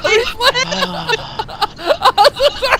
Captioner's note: impatient sigh